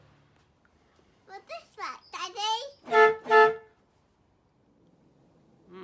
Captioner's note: sounds Horn